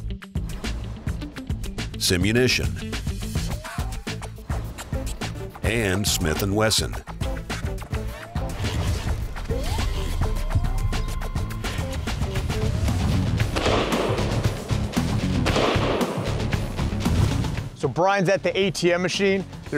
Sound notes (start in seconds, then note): 13.2 heavy rock music; 13.4 gunshots